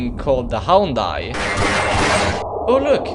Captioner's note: Houndeye Screaming